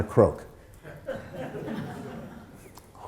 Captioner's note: laughter